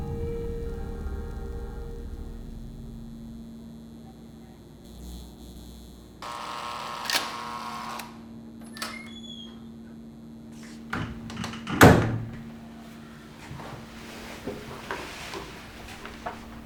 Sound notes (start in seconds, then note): 6.5 machine noise; 8.6 door opening; 10.8 door closing